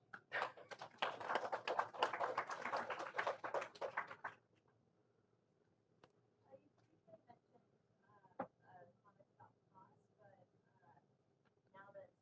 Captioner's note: applause